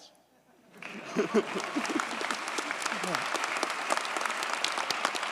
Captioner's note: audience cheers and applauds